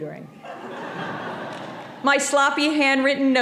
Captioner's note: audience laughing